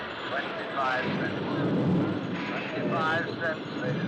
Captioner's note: thunder rumbles